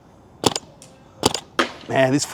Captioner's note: paintball ricocheting